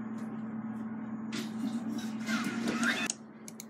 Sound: toilet Flush

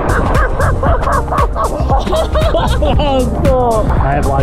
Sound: everyone laughing

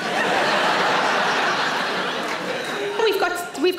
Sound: audience laughs

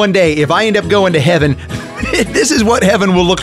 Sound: chuckles

